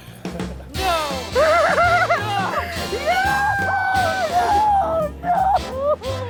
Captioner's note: crying; screams